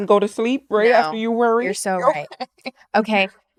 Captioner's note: laughs